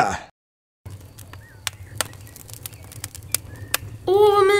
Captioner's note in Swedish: Brasan låter